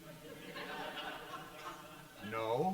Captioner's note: audience laughs